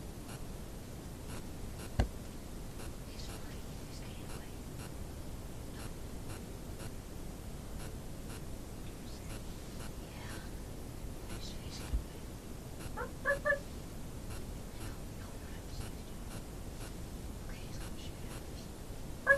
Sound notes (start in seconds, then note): 12.9 imitating turkey call